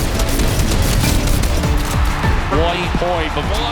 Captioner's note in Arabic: تشجيع الجمهور